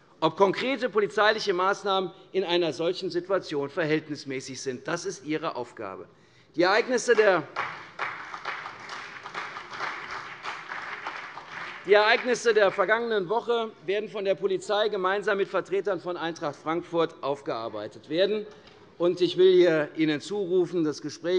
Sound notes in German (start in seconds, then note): 7.1 Vereinzelt Beifall CDU und BÜNDNIS 90/DIE GRÜNEN